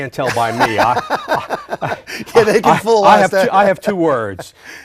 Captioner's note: laughing